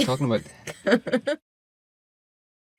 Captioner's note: laughs